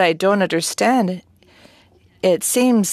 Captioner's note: speaking French